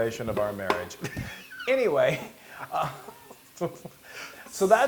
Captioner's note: laugh